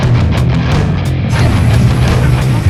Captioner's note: spray can hissing; upbeat heavy metal rock music continues